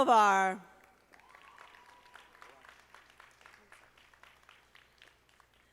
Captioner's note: audience applauding